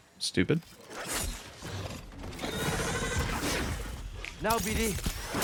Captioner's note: gunshots